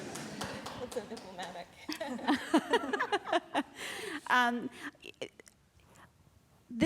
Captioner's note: laughter